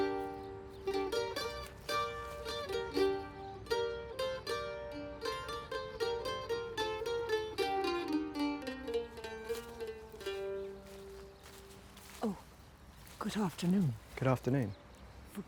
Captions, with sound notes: That's her. [MANDOLIN MUSIC CONTINUES] [FOOTSTEPS] - Oh. Good afternoon. - Good afternoon.